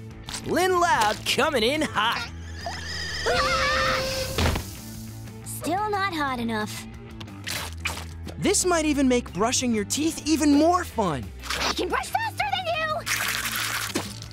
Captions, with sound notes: Lynn Loud comin’ in hot! [screaming] Still not hot enough. This might even make brushing your teeth even more fun. I can brush faster than you!